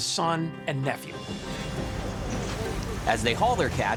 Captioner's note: water splashing